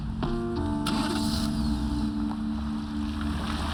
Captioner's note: starts engine